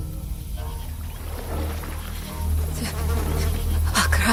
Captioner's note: insects buzzing; woman chanting to Akarat